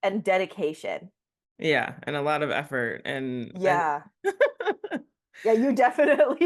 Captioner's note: giggles